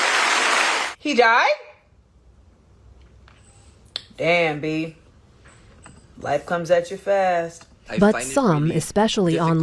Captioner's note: applause